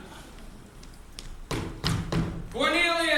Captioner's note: stamp-stamp-stamp